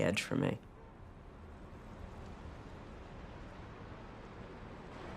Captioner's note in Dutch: Voorbij rijdende auto